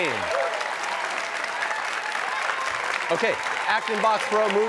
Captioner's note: cheers and applause